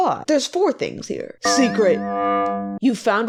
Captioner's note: weird sfx